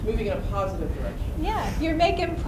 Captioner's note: voiceover